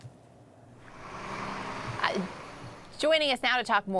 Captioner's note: bus engine